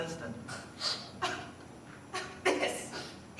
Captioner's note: laughing